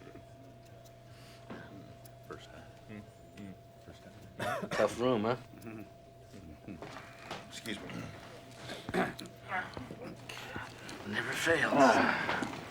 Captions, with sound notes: (indistinct conversation) Tough room, huh? Mm-hmm. Excuse me. (clears throat) Never fails.